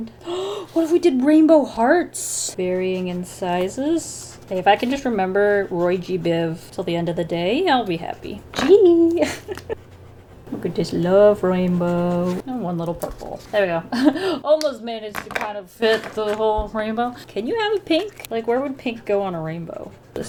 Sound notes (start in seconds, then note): 7.3 laughs